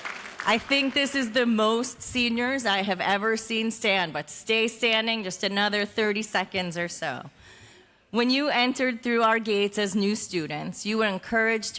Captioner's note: cheers and applause